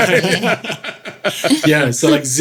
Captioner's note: laughing